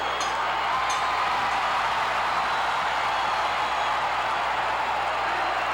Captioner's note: audience cheering continues